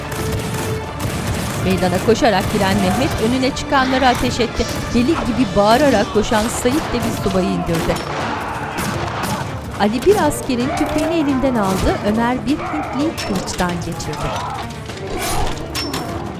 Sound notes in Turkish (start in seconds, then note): 0.0 Silah sesleri; 5.1 Silah sesleri